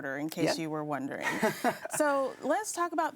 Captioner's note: laughs